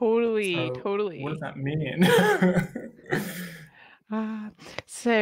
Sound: laughing

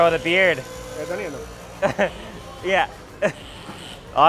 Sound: laughs

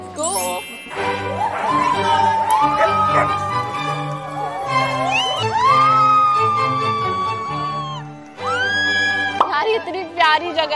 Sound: everyone cheering

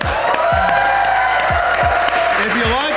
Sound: crowd clapping and cheering

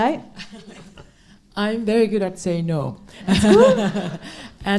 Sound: laughs

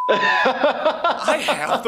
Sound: laughing

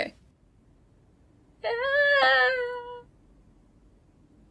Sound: whimpers like a TRUE WIMP

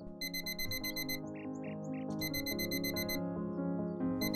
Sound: alarm clock buzzing

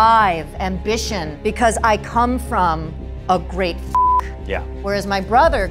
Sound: beeping

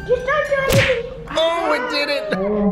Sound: smacking sound

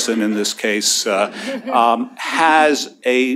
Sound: laughter

